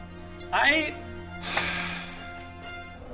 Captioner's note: sigh